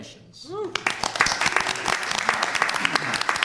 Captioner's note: applause